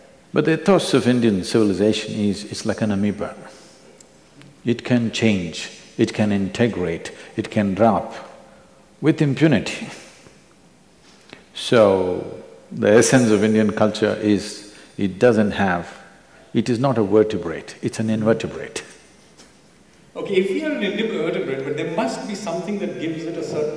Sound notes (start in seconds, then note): 19.1 laughs